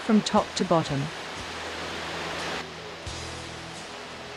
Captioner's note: water falls